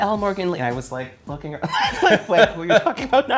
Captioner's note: both laughing